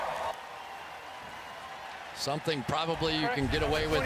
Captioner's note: cheering